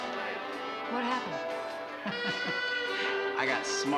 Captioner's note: chuckles